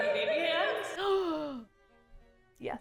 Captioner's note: gasps